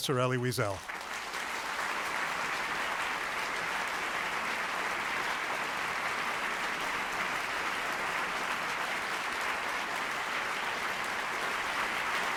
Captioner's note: applause